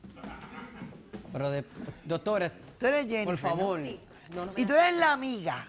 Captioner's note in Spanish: Risas